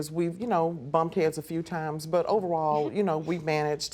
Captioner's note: scoffs